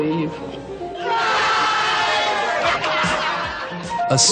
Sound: laughter

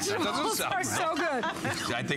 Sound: laughter

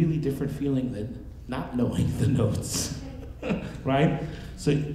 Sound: laughing

